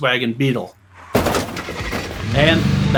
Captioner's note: car engine roaring